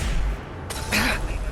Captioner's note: blam!; krsh